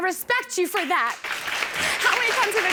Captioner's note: audience applauding